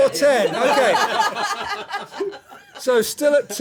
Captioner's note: laughter